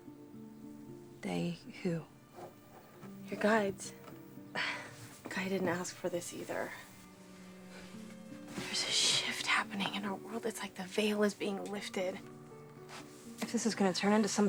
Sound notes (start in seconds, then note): 0.3 mysterious music; 4.5 sighs